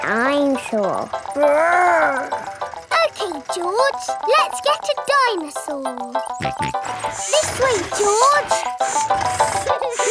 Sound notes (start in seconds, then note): 6.4 george snorts